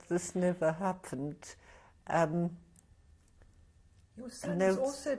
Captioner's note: pauses for 3 seconds